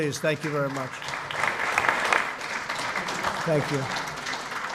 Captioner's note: applause